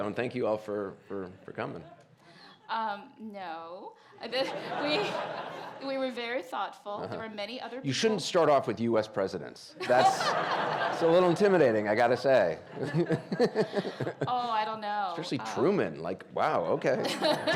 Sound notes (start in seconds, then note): 4.4 audience laughing; 9.8 audience laughing; 12.7 audience laughing; 12.8 laughing